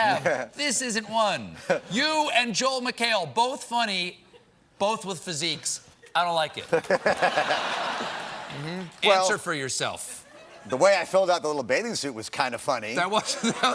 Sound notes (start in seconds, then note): 6.6 laughter